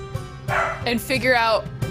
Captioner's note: dog barks